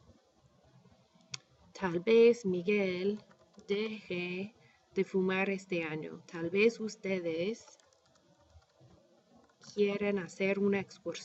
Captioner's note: speaking spanish